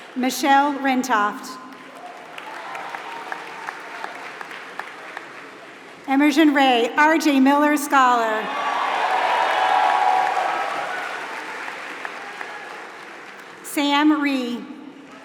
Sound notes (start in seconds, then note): 0.0 applause; 8.4 applause